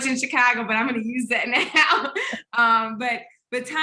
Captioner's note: laughing